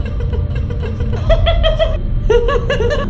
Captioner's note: laughing insanely